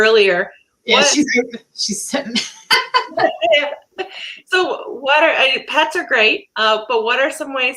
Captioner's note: laughter